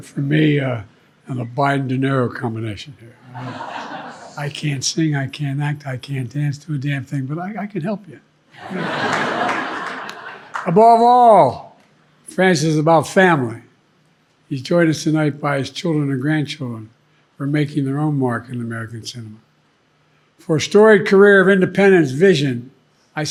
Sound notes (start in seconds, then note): 8.5 audience laughing